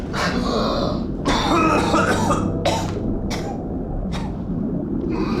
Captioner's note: Rico coughing